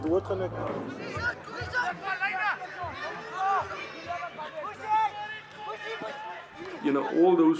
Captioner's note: shouting